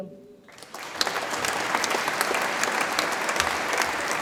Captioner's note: audience applauds